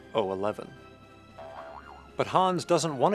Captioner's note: boing boing